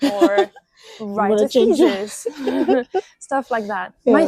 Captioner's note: laughs